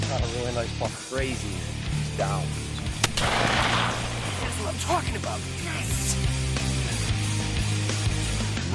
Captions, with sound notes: - Got a really nice buck. Crazy, it's down. (gunshot) - That's what I'm talking about. Yes! (upbeat music)